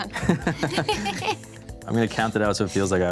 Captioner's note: everyone chuckles